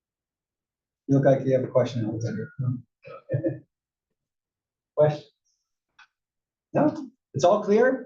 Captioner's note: laugh